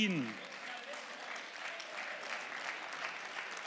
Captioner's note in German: Beifall